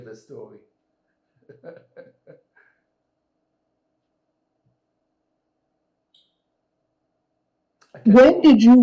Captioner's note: pauses 6 seconds